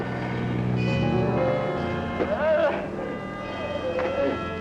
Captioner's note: moaning